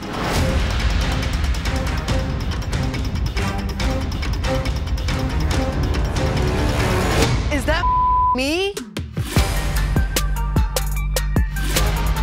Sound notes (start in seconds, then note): 0.0 dramatic techno music; 7.8 beep; 8.3 upbeat techno music